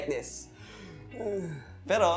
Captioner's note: sound of suffering